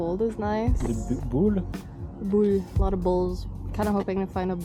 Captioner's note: in a mockin french accent